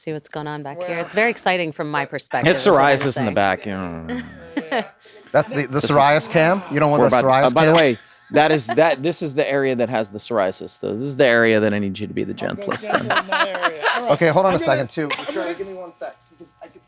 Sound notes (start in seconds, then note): 4.8 Glenn stammers